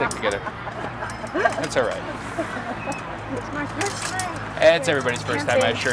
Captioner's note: laughing